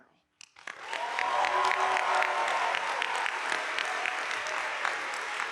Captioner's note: audience applauding